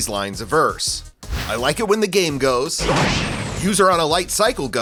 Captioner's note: tron sfx